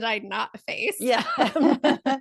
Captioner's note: laugh